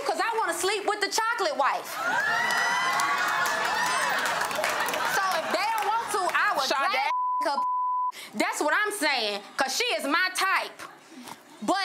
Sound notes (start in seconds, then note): 2.0 audience applauds and gasps; 7.0 beep